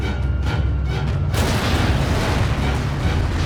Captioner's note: thudding